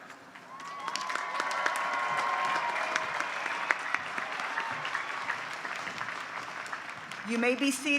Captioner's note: applause